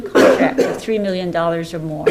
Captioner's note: loud coughing